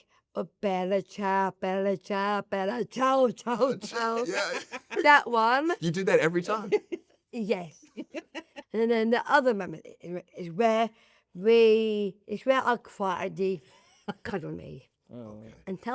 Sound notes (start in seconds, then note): 7.9 laugh